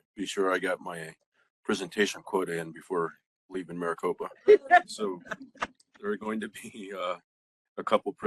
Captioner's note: laughing